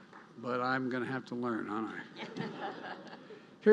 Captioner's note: laughter